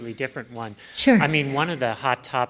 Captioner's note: voiceover